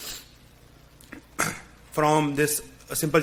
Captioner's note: clears throat